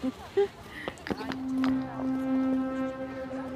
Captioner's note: Aleks laughing; ominous music